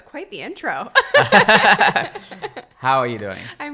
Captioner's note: laughter